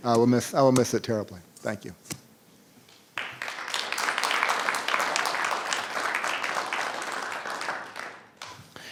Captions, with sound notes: I will miss it terribly, thank you. (audience applauding)